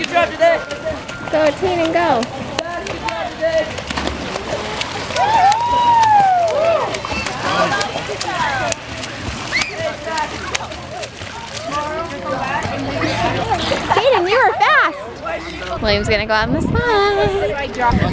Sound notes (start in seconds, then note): 3.6 splashes water; 5.1 cheering